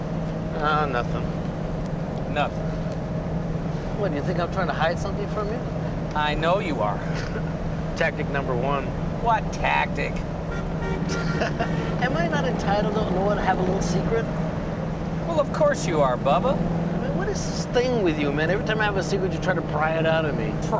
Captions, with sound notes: Ah, nothing. Nothing, huh? What, do you think I'm trying to hide something from you? I know you are. (laughs) Tactic number one. What tactic? (laughs) Am I not entitled to have a little secret? Well, of course you are, bubba. I mean, what is this thing with you, man? Every time I have a secret, you try to pry it out of me.